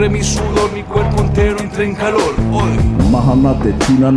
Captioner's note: non-english speech